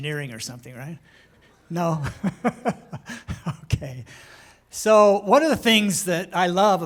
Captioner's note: laughter